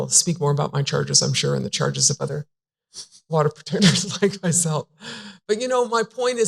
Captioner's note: chuckles